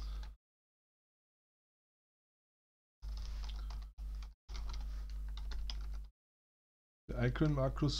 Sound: silence

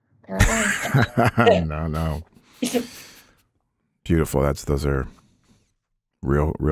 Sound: chuckles

